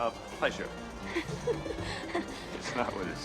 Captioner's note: woman chuckles